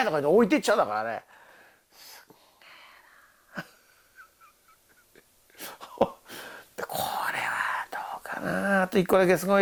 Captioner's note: laughs